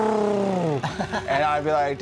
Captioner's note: laughs